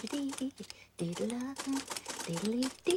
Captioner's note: humming